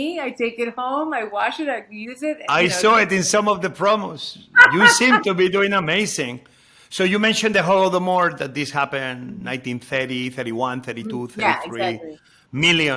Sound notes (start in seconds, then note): 4.5 Padma crows